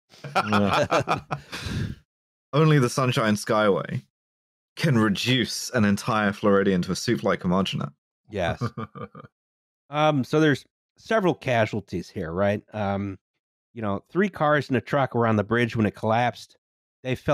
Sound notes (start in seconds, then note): 0.2 laughter; 8.4 laughs quietly